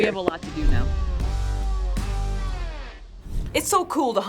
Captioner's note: air whooshing